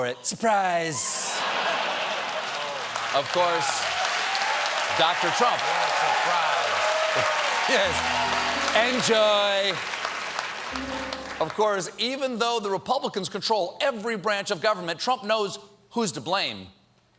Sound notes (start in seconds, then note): 4.3 applause; 8.3 cheers and applause